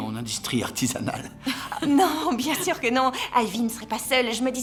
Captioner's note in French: rires